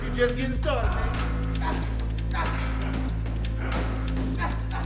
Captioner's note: grunting